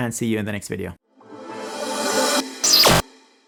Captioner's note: brilliant energetic sound; electrical zapping sound